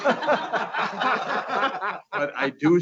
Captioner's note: laughing